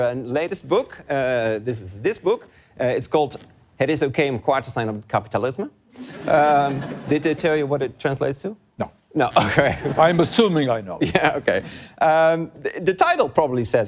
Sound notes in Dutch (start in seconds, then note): 4.6 met een Engels accent zegt Lubach de Nederlandse titel